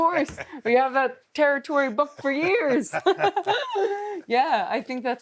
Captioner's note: laughs